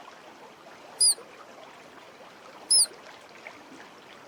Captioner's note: squeaking